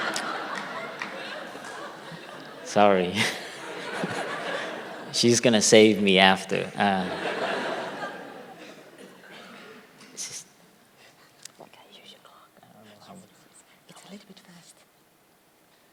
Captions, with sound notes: (laughter) - sorry she's going to save me after (whispering) sister, can I use your clock? Sure, but it's a little bit fast